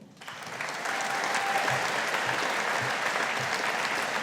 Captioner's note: audience applauding